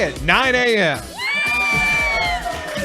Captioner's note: cheering